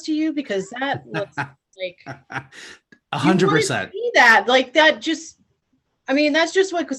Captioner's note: laughs